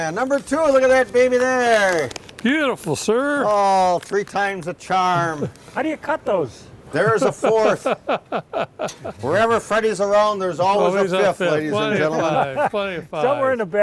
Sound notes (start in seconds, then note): 7.0 man laughing